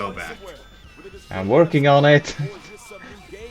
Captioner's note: snickers